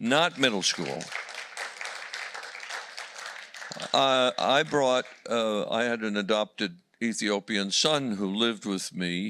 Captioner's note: applause